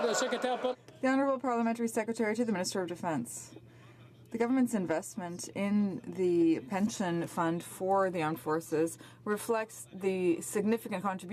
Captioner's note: some Applause